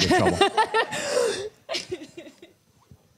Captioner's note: laughter